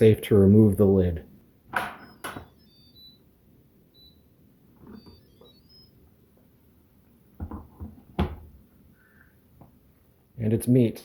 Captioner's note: chimes and beeps